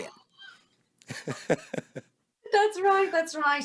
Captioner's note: laughs